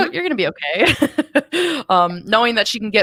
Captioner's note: chuckles